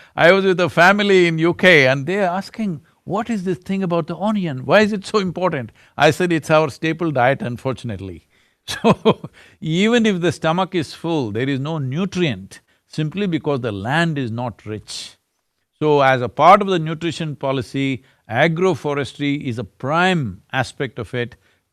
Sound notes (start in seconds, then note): 8.7 laughs